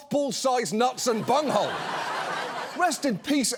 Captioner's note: audience laughs